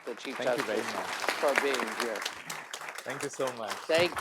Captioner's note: applause